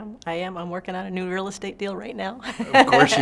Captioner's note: laughs